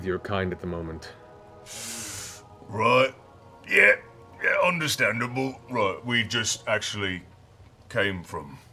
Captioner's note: inhales